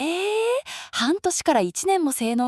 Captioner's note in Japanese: 息をのむ音